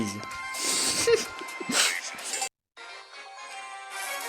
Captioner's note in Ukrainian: сміється